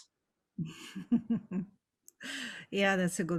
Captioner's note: giggles